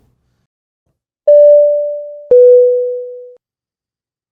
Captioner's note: logo dings